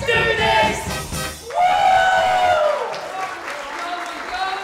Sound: music stops, audience cheer

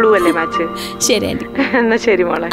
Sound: chuckling

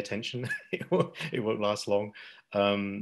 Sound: chuckles

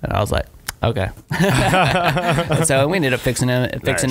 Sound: laughing

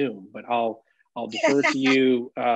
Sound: laughs

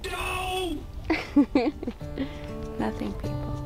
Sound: laughter

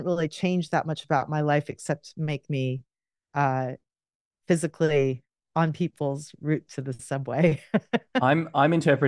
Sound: laughs

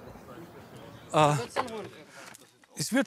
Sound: contemplating sound

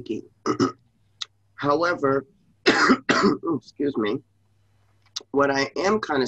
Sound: coughs

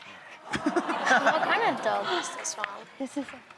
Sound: audience laughs

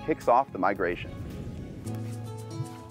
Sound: whooshing; soft music

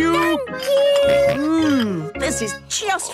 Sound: snorts

